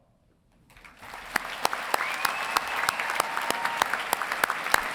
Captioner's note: cheering and applauding